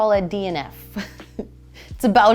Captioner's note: chuckles